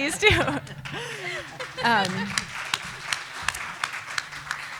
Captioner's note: applause